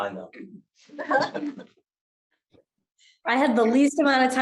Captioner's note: all chuckles